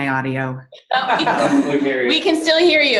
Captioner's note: laughing